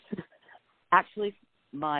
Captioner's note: laughs